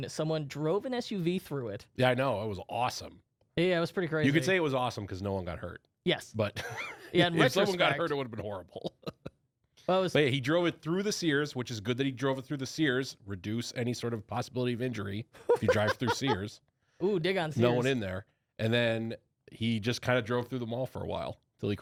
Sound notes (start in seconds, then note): 7.1 laughs; 8.8 laughs; 15.4 laughs